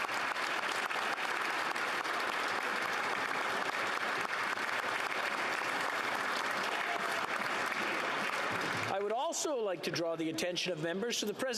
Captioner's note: applause